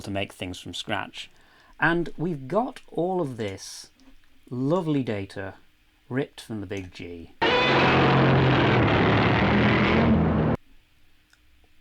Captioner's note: Godzilla roars